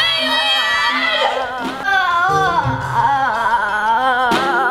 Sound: yelling

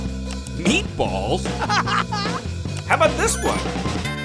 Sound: Blaze laughing

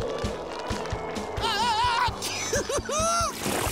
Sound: laughing

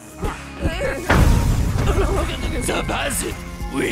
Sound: grunting

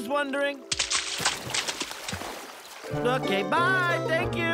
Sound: water splashing

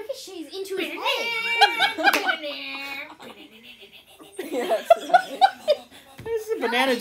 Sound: laughter

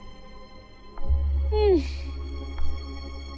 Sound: sighs

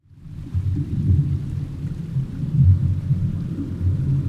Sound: rumbles of water rushing

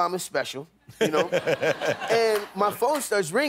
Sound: laughter

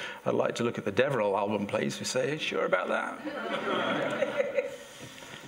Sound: laughter

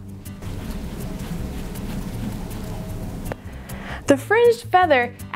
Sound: quiet whooshing

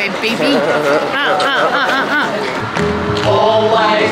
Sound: people humming

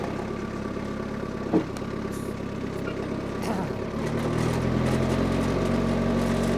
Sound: telehandler engine rumbling

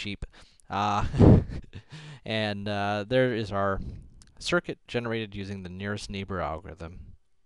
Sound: laugh

